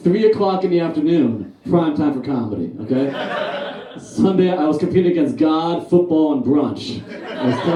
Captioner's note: audience Laughs; audience Laughs